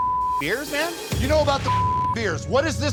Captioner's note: beep; beep